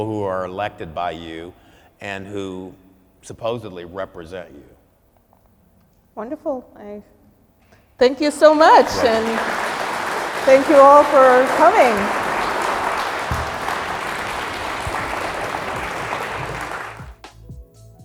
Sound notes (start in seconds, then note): 10.8 applause